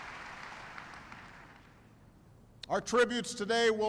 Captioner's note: applause